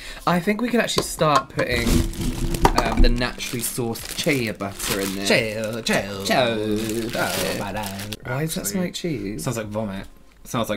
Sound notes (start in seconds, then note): none